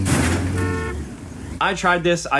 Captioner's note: cars colliding; horn honking